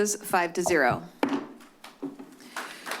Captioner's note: gavel tap